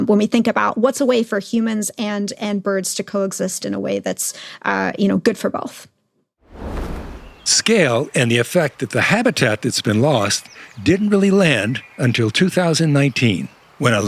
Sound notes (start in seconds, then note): 6.4 screen whooshes; 6.6 birds chirping